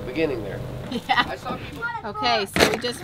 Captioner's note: chuckles